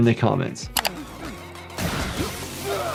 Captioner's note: screen clicking; guns blasting; character grunting